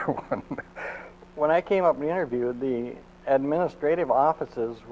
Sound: laughs

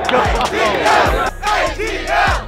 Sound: crowd

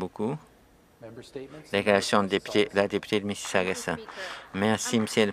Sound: some Applause

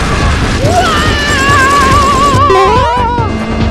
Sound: screaming in fear

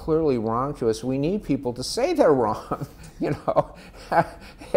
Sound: laughs

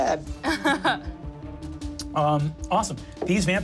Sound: laughs

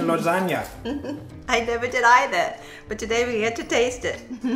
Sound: laugh

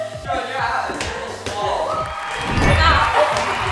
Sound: chattering

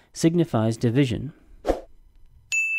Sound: swoosh; ding

